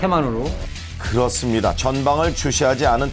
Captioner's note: voiceover